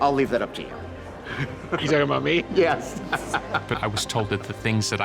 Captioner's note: laughs